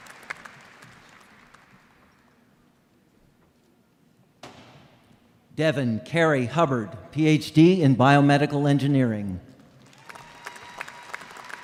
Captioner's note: applause